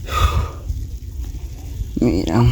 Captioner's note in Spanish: suspiro